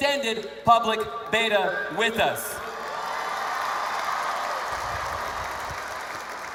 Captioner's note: cheers/Applause